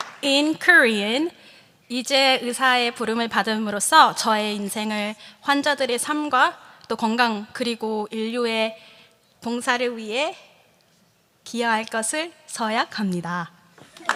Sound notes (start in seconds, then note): 0.0 applause; 1.8 speaking korean